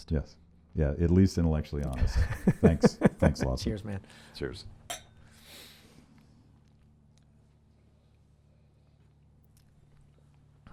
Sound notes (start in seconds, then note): 2.0 laughs; 4.9 glasses clinking